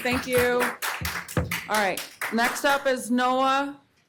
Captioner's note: applause